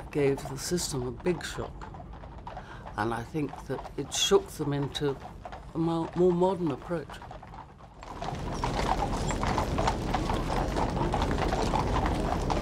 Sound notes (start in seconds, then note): 9.4 horses trotting